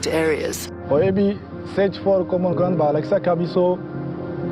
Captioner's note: non-english speech